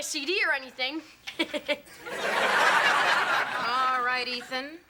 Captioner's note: suspicious laugh